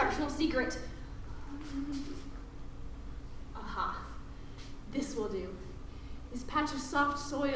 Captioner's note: hums